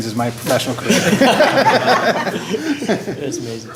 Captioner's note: laugher